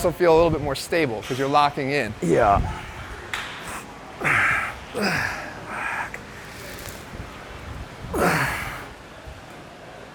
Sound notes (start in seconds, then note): 4.2 grunting